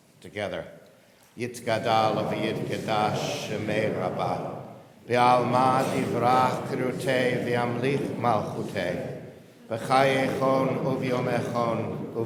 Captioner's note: Reciting Mourner's Kaddish